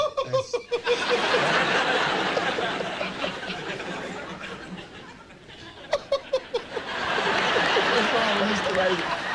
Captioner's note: man laugh on the right is laughing hard; crowd laughter in the background